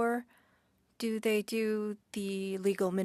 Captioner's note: speaking French